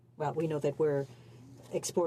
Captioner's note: speaking French